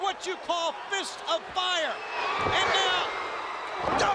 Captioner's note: crowd cheering